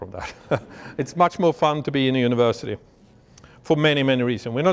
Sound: laughs

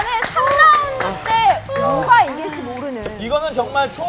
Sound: applaud

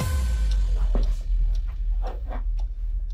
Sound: intense music; clock ticking

